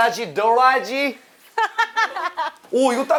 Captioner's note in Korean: 깔깔깔